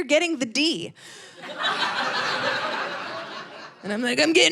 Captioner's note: audience laughing